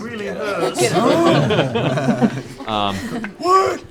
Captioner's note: laughter